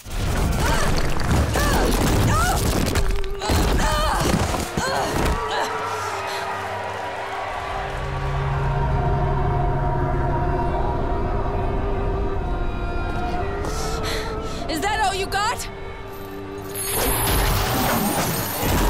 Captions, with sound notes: [groaning] [audience cheering] Is that all you got?!